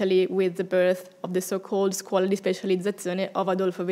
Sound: speaking in foreign language

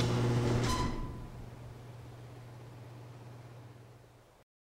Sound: garage door groans

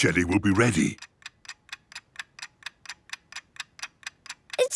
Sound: ticking

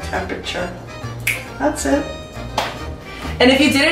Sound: snaps fingers

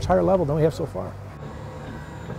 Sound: pump sounds and music

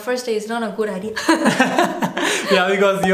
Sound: laughter

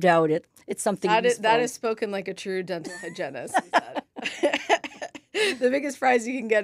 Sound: laughs

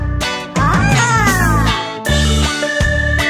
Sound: screaming

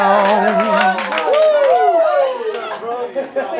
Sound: cheering

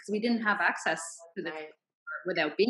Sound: none

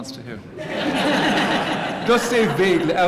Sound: laughter

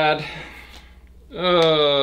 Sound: sigh

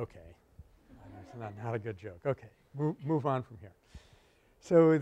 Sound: laughter

